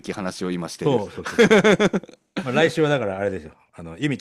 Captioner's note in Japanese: 笑い